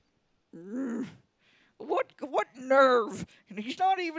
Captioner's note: Leia growls